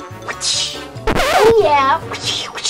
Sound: whistles; record scratch; whistles

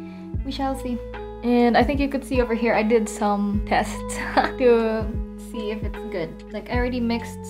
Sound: chuckles

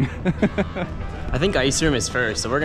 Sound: laughs

